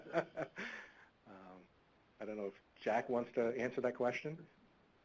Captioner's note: laughing